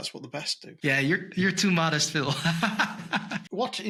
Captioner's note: laughs